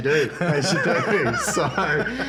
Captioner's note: laughs